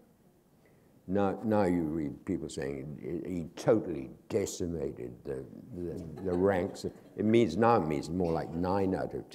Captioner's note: laughter